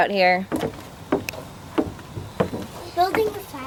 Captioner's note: clattering